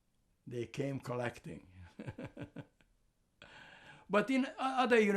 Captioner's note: laughing